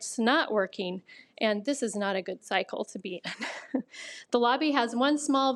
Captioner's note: laughs